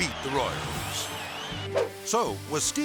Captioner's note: crowd cheering; air swoosh